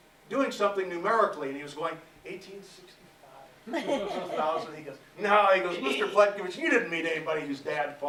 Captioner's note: laughter